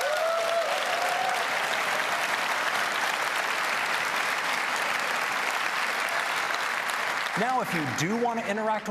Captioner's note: applause